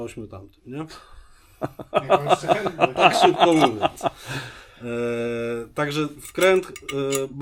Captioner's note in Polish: śmiech